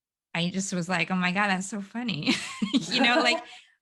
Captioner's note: laughs